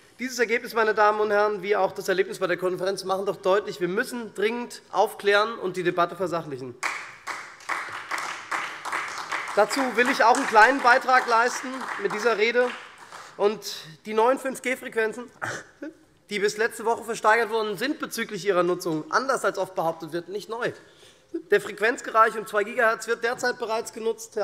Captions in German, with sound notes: Dieses Ergebnis wie auch das Erlebnis bei der Konferenz machen deutlich: Wir müssen dringend aufklären und die Debatte versachlichen. [Beifall SPD und vereinzelt Freie Demokraten] Dazu will ich mit dieser Rede einen kleinen Betrag leisten. Die neuen 5G-Frequenzen, die bis letzte Woche versteigert worden sind, sind bezüglich ihrer Nutzung anders, als oft behauptet wird, nicht neu. Der Frequenzbereich um 2 Gigahertz wird derzeit bereits genutzt,